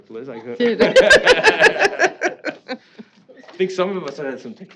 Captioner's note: laughing